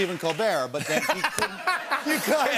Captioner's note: laughs